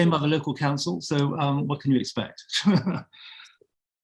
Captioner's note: chuckling